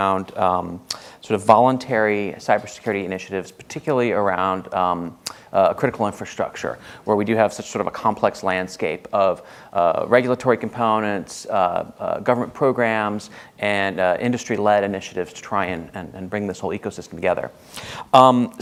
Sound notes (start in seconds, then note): none